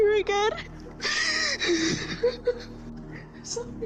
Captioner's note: sobs